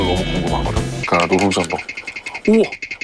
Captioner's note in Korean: 긁긁